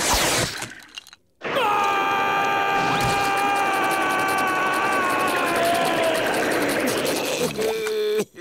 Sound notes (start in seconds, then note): 1.4 screaming